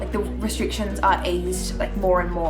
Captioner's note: none